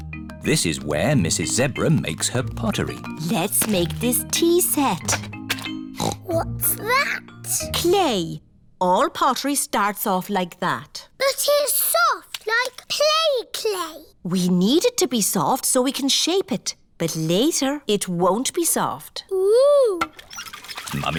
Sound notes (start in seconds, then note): 5.9 snorts